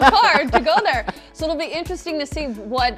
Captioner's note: laughs